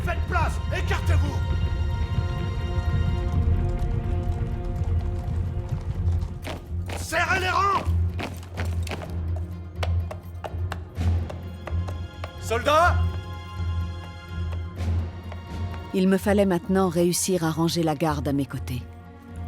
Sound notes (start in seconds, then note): 2.1 hooves clomping; 6.4 soldier marching; 9.2 hooves clomping